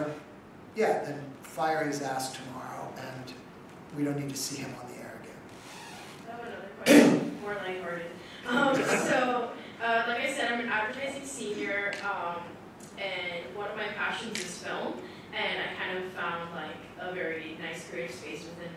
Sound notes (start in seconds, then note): 8.4 audience laughing